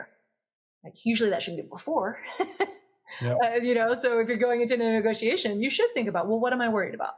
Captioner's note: laugh